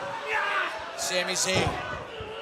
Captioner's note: crowd chatter